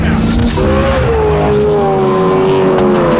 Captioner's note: engine rumbling